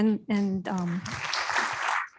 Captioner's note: applause